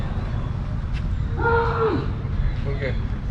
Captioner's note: screams from the 2 young people again